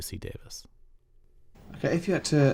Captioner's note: soundbite of tv show, "the office"